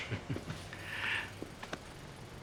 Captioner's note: Joe chuckles